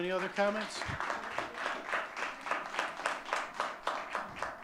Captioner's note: audience clapping